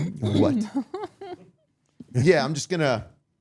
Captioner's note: all laughing